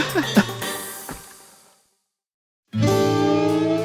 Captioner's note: laughing; guitar strum